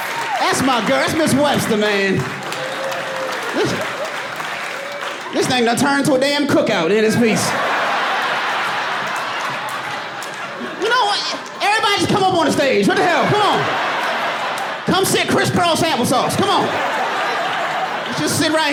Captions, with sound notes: That's my girl. That's Ms. Webster, man. This thing gonna turn into a damn cook-out. [AUDIENCE LAUGHING] You know what? Everybody just come up on the stage. What the hell. Come on. Come sit criss-cross applesauce. Come on. Just sit right here and do this shit. [LAUGHING]